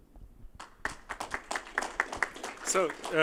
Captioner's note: applause